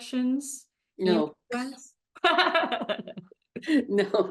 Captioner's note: both laughing